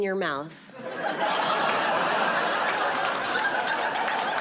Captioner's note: audience laughs